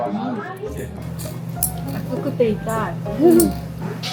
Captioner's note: chewing